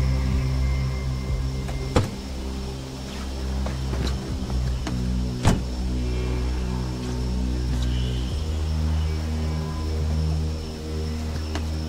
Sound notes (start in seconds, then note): 5.4 car door bangs; 8.7 suspenseful music